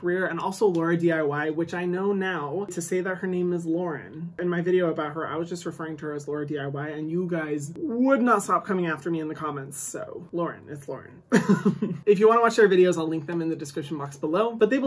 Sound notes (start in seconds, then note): 11.3 chuckles